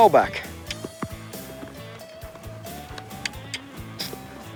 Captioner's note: clicking